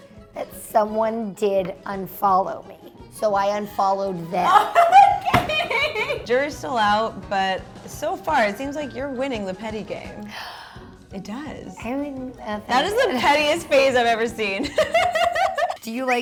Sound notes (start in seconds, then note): 4.4 laughs loudly; 10.3 gasps